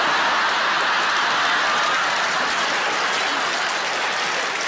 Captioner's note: audience claps